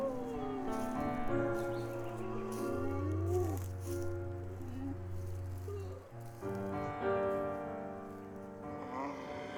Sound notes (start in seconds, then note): 1.7 moaning